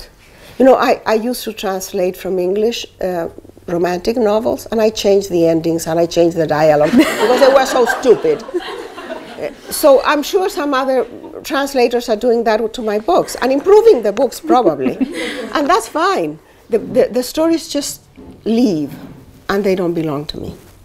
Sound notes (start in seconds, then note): 8.4 laughter